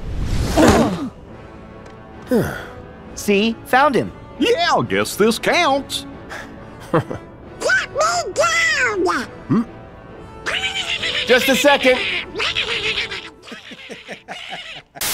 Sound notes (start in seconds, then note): 2.2 sighing; 6.8 laughs; 13.4 laughs